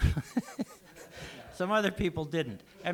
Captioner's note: laughs